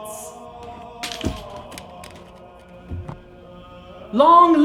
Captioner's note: thumping